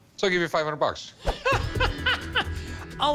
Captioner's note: laughs